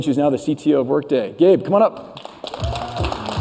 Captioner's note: applause